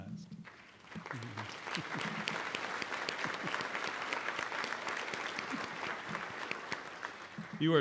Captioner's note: applause